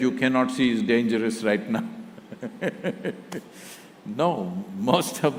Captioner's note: both Laugh